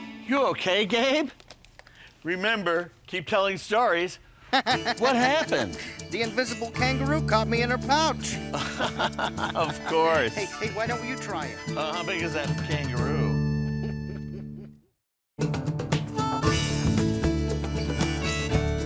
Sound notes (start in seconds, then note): 4.5 laughing; 8.3 laughs; 15.9 gentle upbeat music